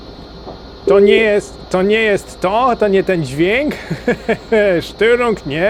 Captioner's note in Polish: śmiech